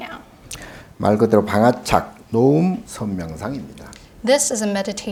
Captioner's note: speaking Korean